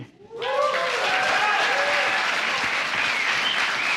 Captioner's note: applause